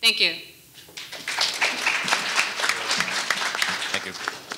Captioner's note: audience applauding